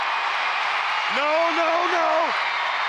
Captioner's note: audience cheering